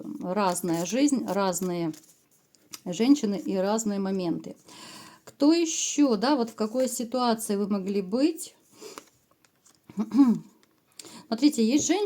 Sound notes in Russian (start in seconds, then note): 9.9 откашливается